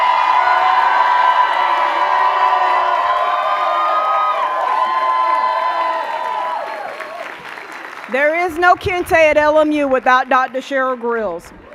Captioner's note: cheers and applause